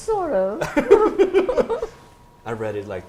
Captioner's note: laughter